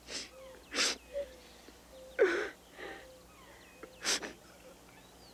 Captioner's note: Ben and Lena crying